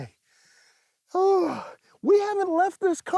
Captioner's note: sighs